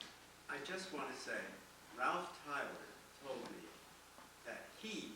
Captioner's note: voiceover